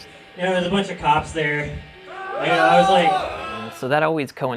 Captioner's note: boooo